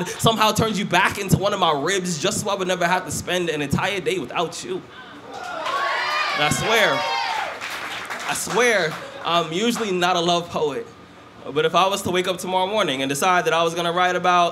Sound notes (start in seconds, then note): 5.2 cheers